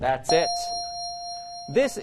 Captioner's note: ding